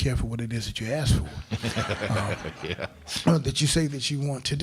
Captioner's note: crowd laughing